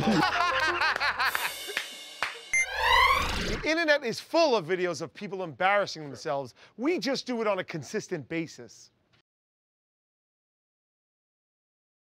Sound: laughing

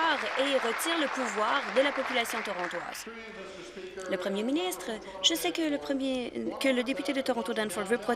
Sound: applause

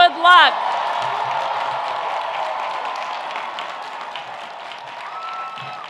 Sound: audience applauding and cheering

